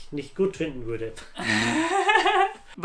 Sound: laughs

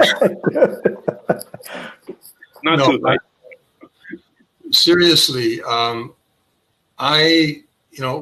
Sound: laugh

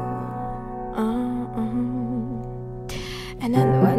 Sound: humming

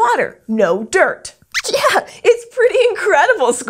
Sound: squeaks squeaks in amazement

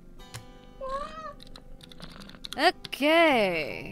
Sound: cat meows

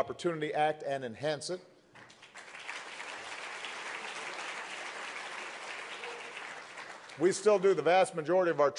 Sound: applause

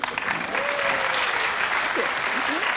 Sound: audience applause

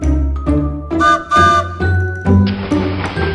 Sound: train whistle; train chugs

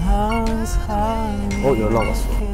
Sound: confident

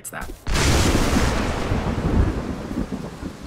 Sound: thunder Crash

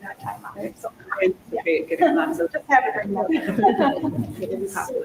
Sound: panelists chattering

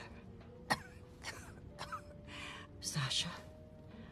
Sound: coughs

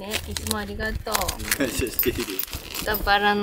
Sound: laughs

